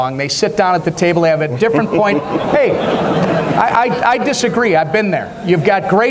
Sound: audience laughs

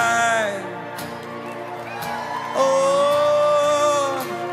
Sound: crowd cheers

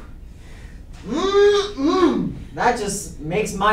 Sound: in a hungry tone

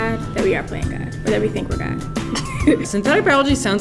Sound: laughter

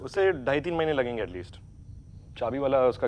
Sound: none

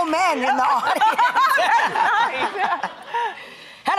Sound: laughs

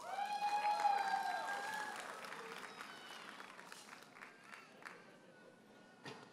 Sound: audience cheers and applauds

